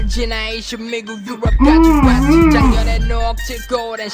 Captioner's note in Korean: 으음~ 으음!